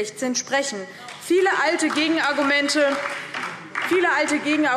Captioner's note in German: Beifall DIE LINKE und vereinzelt SPD